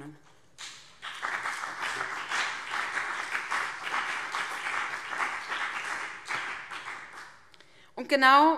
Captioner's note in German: Beifall BÜNDNIS 90/DIE GRÜNEN und CDU